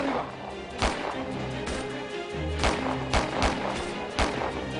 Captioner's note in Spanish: Disparos